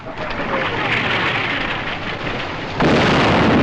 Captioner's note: Rocket Howls